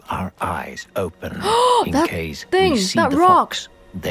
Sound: gasps

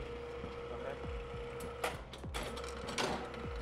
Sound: machine whirs

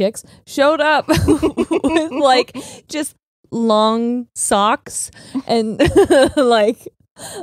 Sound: both laughing; laughs

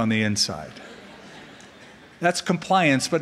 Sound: laughter

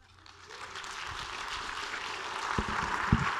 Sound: applause

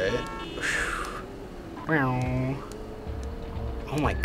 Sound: exhales sharply; imitates car rev

